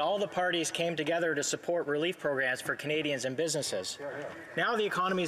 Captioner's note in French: voix de l'interprète